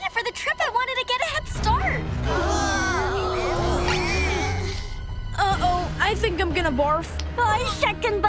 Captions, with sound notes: I wanted to get a head start! [siblings groaning] Uh-oh. I think I'm gonna barf! I second that!